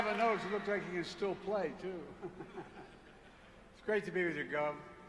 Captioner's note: applause